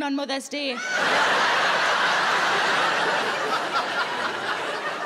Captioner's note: audience laughing